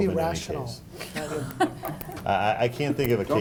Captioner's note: laughing